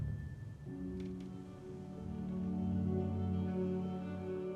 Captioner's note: floor creaking; somber violin music